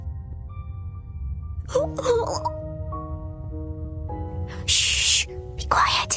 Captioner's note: vomits